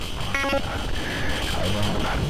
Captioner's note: glitching noise